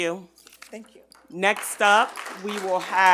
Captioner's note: attendees clap